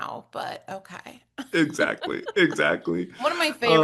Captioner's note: laugh